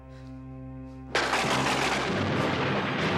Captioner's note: thunder crashing; dramatic music